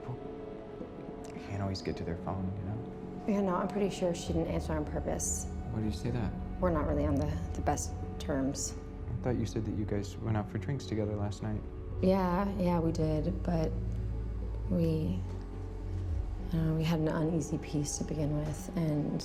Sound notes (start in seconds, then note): none